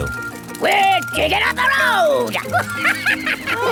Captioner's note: chuckles